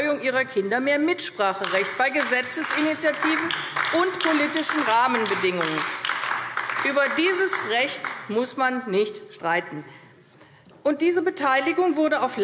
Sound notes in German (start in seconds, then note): 5.5 Beifall AfD